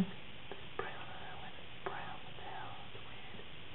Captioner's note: whispering